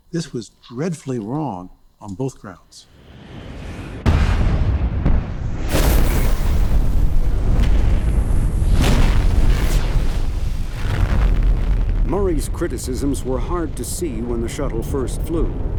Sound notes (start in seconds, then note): 3.9 rocket launching